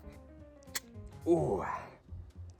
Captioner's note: bottle popping